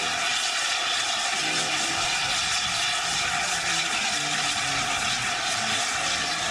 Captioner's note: train releases steam